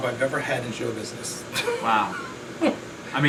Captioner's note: laughs